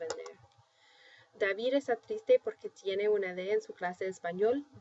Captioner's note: speaking spanish; spanish; speaking spanish